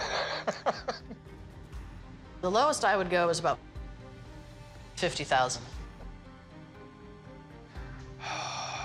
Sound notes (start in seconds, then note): 0.0 laughteter